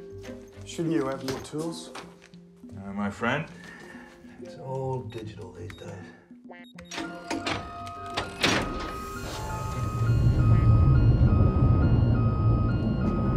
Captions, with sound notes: Shouldn't you have more tools? No, my friend. It's all digital these days. (whirring, beeping)